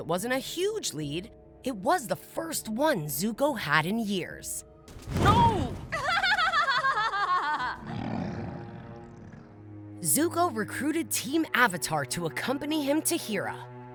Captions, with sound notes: While it wasn't a huge lead, it was the first one Zuko had in years. No! [Azula laughing] Zuko recruited Team Avatar to accompany him to Hira.